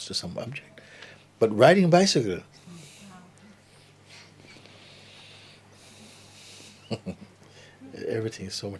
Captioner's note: laughter